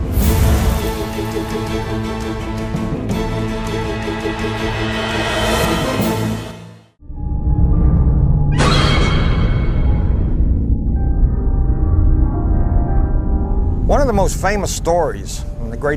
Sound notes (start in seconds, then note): 0.1 suspenseful music; 8.8 creature shrieks